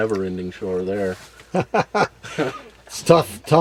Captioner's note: laughs